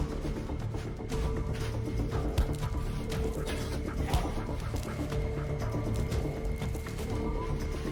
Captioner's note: thuding against wall, tarp shuffling